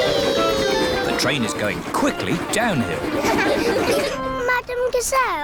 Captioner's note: laughter